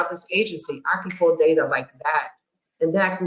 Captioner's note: snaps fingers